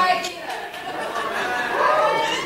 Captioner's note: laughing